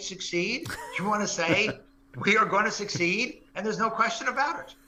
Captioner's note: laugh